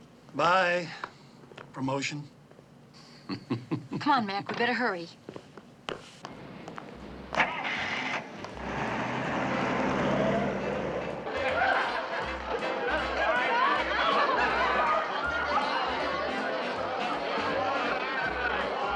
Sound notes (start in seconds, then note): 3.1 chuckles; 11.2 all chattering